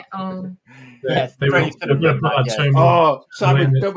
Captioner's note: laughter